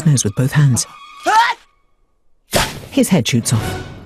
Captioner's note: snowman sneezes